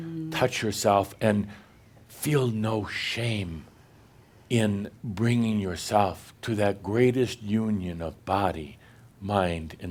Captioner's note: none